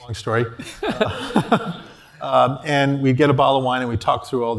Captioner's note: laugh